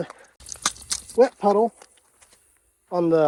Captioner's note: water sloshing